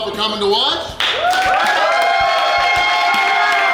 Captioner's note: cheering